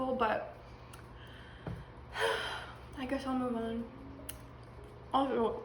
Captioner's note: sad sigh